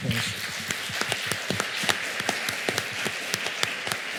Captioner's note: applause